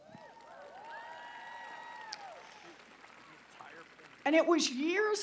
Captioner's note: applause